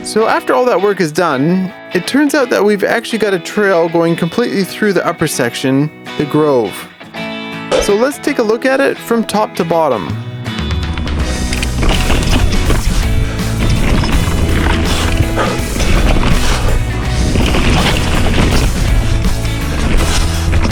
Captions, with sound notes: So after all that work is done, it turns out that we've actually got a trail going completely through the upper section, the Grove. So let's take a look at it from top to bottom (guitar music) (bike tires on the trail)